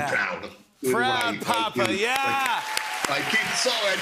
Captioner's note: cheers and applause